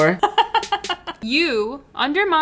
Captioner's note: laughing